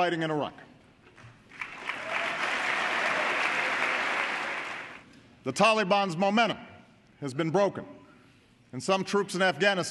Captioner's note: cheering and applause